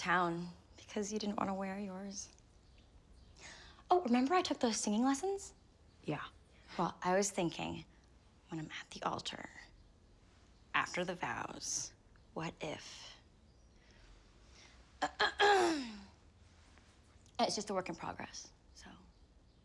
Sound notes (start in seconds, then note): 15.0 clears Throat